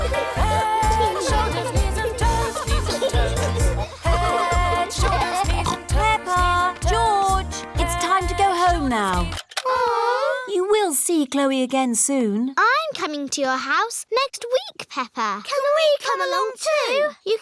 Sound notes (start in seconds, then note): 9.5 music stops; 9.7 all groan